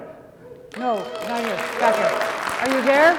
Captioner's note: audience applauding